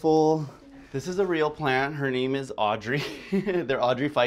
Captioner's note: laughs